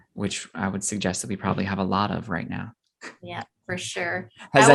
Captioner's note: laughs